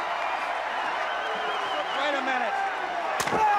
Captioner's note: crowd cheering